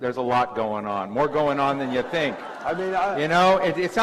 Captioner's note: laughter